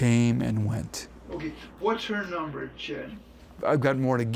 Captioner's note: on phone